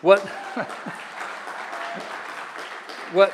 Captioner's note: audience clapping